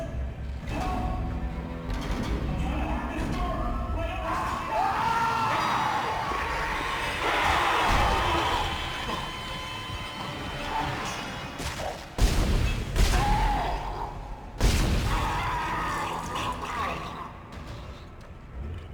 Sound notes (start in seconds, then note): 4.2 screams; 15.0 screams